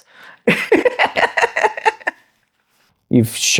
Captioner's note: laughs